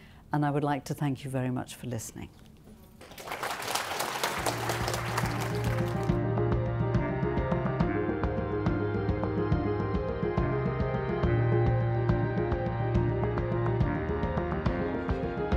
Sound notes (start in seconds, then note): 3.0 applause